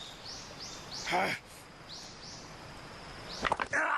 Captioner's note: Snake grunts; bone pops; Snake yells